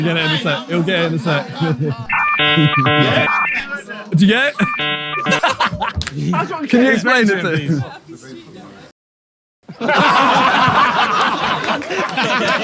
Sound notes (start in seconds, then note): 2.2 bouncy computer noises; 4.6 panel laughs; 9.6 laughter